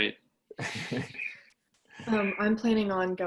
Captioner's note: laughter